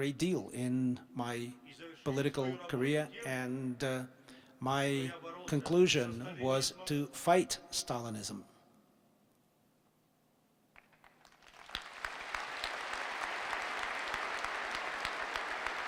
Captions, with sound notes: in my political career and my conclusion was to fight Stalinism. [Applause.]